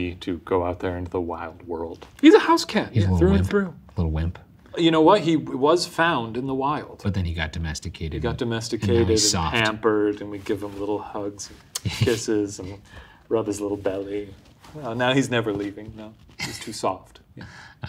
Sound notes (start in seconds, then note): 11.6 smacking lips